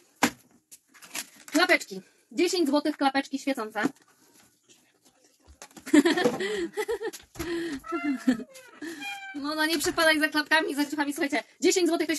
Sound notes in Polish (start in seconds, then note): 5.8 śmiech